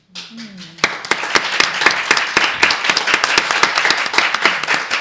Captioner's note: audience applause